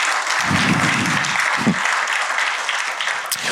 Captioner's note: cheers and applause; exhales